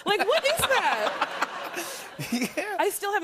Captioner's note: laughter